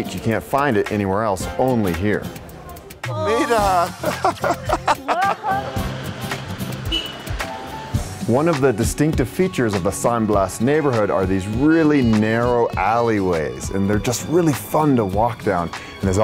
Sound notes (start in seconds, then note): 3.1 laughs; 6.6 car honking